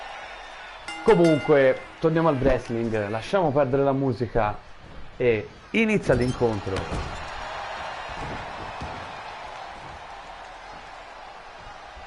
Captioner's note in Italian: Applauso